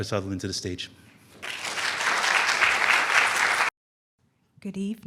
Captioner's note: applause